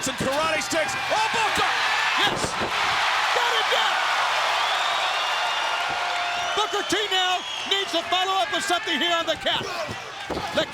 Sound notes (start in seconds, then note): 4.0 crowd cheering